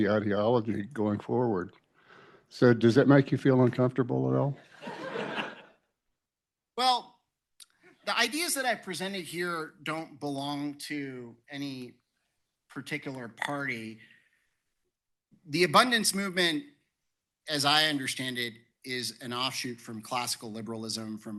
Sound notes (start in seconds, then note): 4.6 laughter